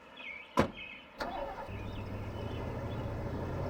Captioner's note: engine starts